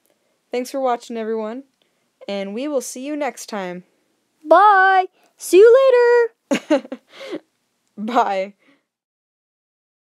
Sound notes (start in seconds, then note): 6.5 chuckles